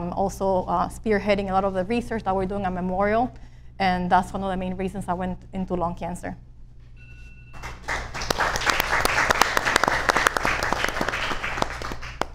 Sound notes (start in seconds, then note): 7.5 audience applauds